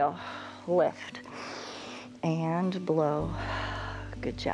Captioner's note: inhales; inhale; exhales